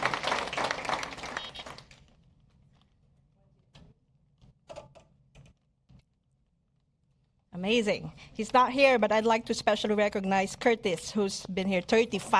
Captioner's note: applause